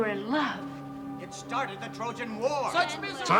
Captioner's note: indistinct chatter